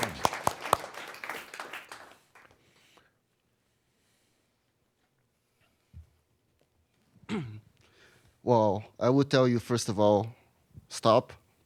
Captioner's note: applause; some chuckles